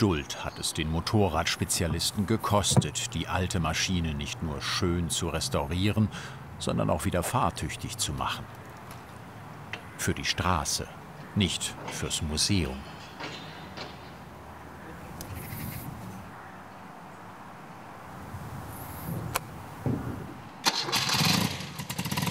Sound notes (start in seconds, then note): 14.2 the noise of the wind; 20.6 the engine starts rattling